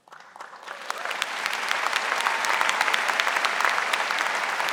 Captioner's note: audience applauding